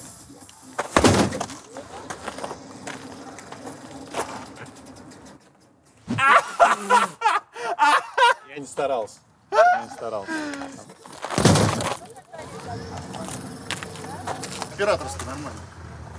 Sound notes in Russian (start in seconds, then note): 6.0 смеются